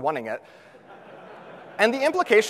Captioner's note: audience laughs